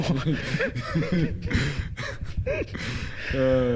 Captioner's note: giggles